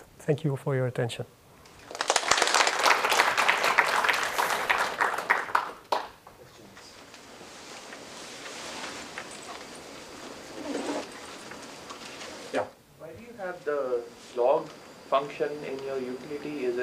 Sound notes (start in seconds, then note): 1.8 applause